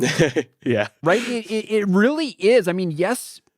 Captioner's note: laughs